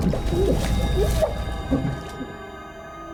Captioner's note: water splashing; low tense music continues